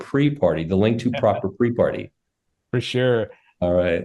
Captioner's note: laughs